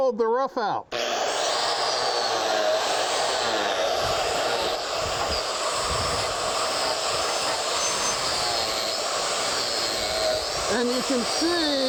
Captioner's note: cutter whirring